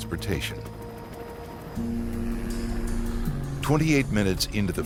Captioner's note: helicopter engine roaring